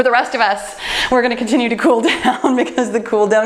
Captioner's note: laughs